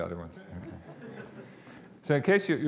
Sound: audience laughing

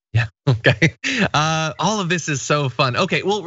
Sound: laugh

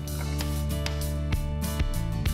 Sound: light music; gavel taps

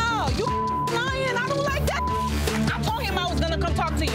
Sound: beep

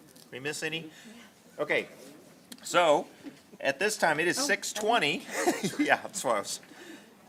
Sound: laughs

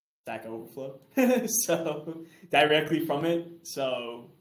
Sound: chuckles

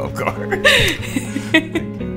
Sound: both laugh; gentle music

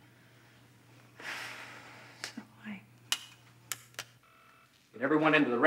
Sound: sighs

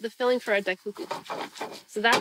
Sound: stirring

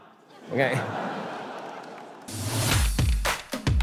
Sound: audience laughter

